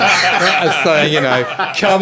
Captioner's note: laughing